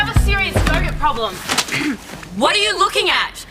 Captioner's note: clears throat